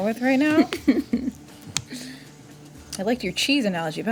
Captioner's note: laughing